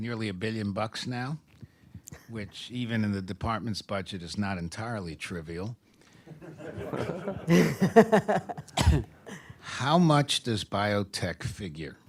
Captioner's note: laughter